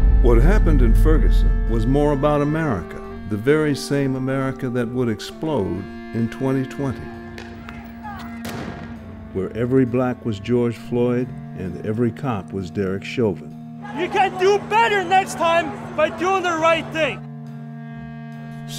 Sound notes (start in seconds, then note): 0.0 loud bang; 8.4 gun shot; 17.3 soft music